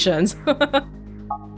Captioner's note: chuckles